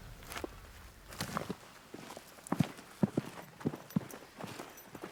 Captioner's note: steps